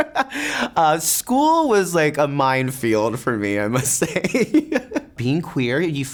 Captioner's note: laughs; laughs